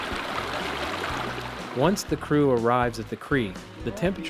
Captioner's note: water rippling